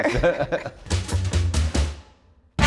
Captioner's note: laughing; upbeat music